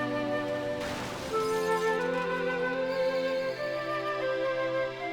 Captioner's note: gentle music; muted sounds of glass breaking, tires squealing; gentle music